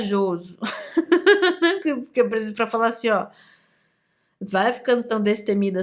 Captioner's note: laughs